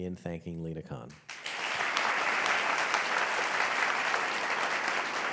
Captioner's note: audience applauding